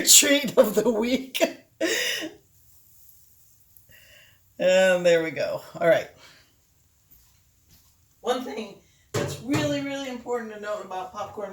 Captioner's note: laughing